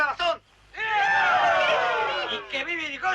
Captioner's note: cheers